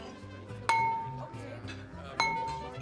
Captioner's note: glass clinking